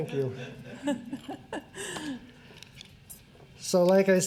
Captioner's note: laughter